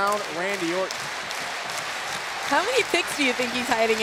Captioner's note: audience clapping